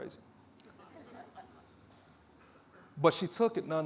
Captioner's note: audience chuckling